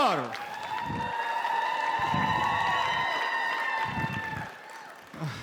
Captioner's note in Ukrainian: оплески